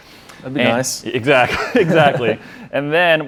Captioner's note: chuckles